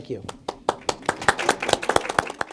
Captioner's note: all applauding